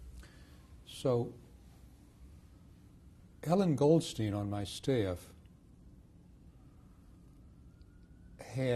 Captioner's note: pauses for 3 seconds